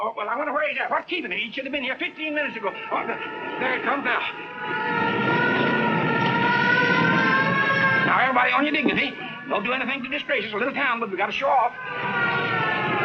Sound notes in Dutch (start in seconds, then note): 4.7 sirene loeien